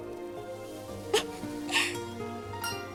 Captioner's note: laughs